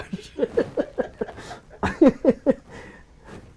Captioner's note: laughing